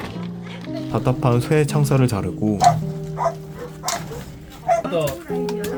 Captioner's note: snip snip